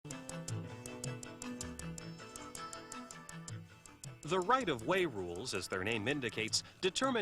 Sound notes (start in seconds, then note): 4.4 voiceover